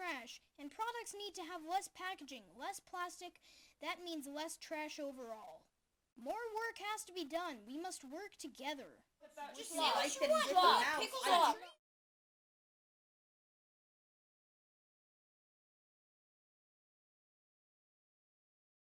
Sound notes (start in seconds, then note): 9.4 everyone talking